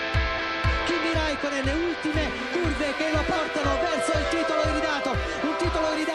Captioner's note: italian commentary